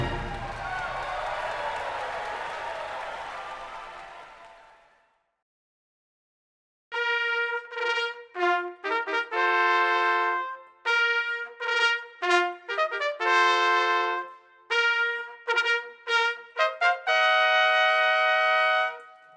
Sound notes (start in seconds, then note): 0.0 people cheering; 6.9 upbeat trumpet music